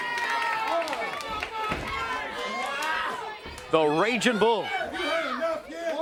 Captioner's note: crowd chatter